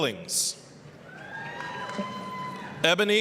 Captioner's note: applause, cheering